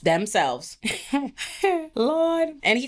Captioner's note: laughs